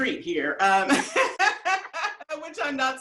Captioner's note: laughs